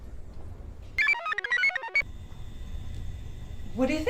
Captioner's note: computer chirps